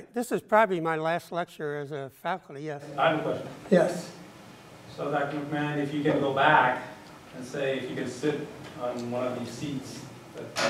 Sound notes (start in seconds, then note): 3.1 voiceover